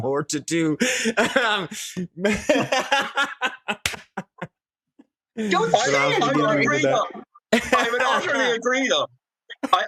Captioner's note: laughs